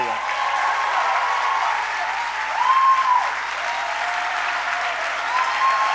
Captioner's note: applause